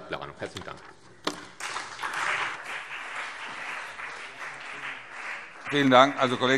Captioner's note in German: Beifall CDU und BÜNDNIS 90/DIE GRÜNEN